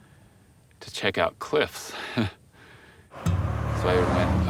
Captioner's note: nervously laughing